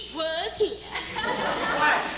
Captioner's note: laughter